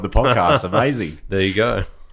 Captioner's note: laughing